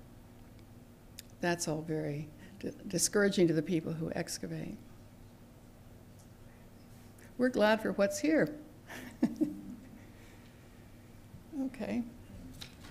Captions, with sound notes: and that's all very discouraging to the people who excavate. We're glad for what's here [laughter] Okay.